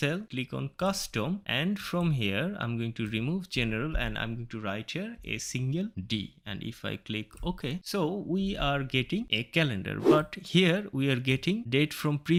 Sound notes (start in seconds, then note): 10.0 woosh Sound